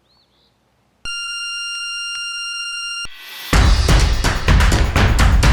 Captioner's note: machine beeps; upbeat music